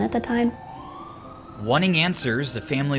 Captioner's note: sirens wailing